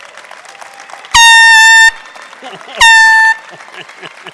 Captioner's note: horn beeping